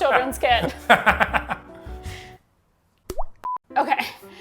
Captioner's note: laughs